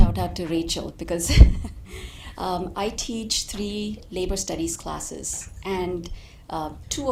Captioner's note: laughing